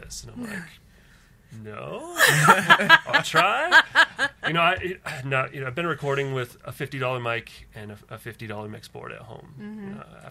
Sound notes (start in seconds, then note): 2.1 laughs